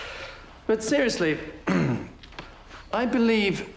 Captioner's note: clears throat